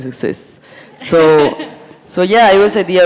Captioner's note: sound of audience chuckling